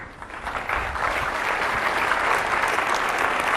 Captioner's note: audience applause